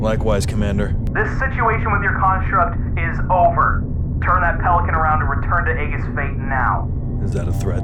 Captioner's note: over Comms